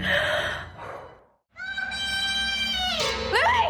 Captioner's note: Lily screams